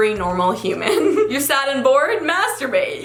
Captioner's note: giggles